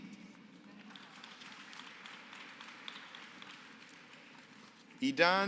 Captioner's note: applause